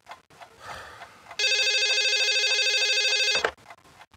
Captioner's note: phone rings